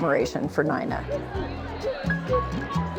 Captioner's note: indistinct chatter and laughter